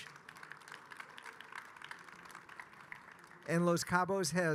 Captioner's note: audience applauding